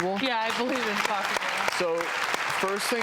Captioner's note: audience applauds